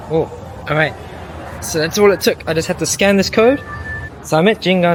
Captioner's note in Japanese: 交通